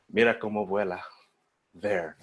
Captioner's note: foreign language